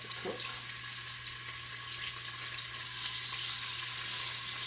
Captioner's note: oil sizzling